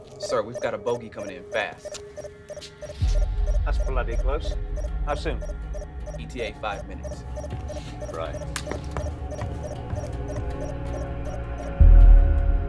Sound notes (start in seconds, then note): 9.0 monitor beeps